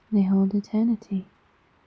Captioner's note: none